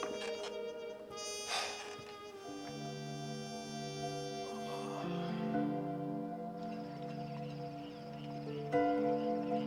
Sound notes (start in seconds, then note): 1.3 sighs; 3.7 groans; 6.5 crickets chirp